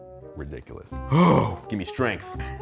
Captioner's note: sighing